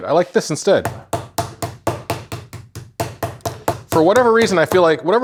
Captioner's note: rolling pin thudding